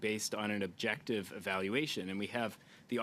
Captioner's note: speaking French